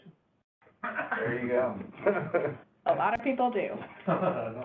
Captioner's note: chuckles